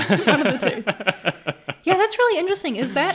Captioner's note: laughing